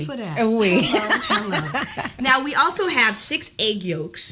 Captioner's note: Kellita laughs